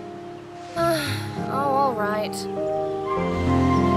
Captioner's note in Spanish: Sigh